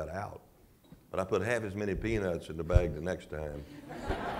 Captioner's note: laughter